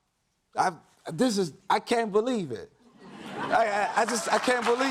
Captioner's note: audience cheers